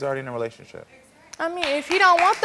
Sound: audience clapping

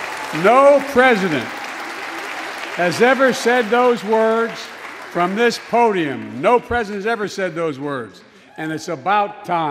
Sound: cheers and applause

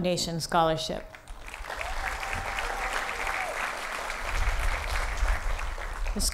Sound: applause

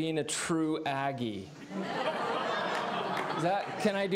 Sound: laughter

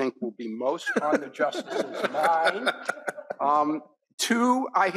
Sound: all laughing

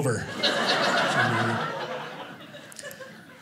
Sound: audience laughing

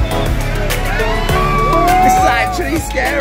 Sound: guests cheering

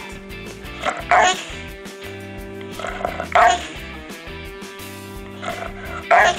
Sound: dog gurgling and barking

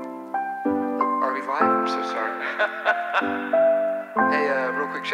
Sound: laughs

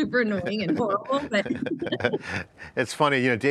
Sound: laughs

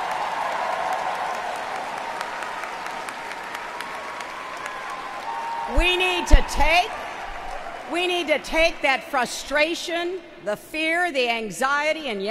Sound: applause

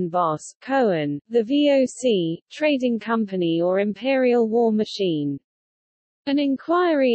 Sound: in German

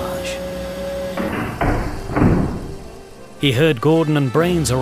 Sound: craft clunking

